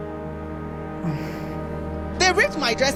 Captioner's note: sighs